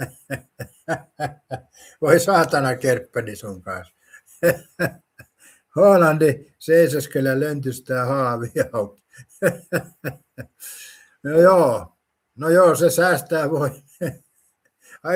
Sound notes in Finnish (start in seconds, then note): 0.0 naurua; 4.8 naurua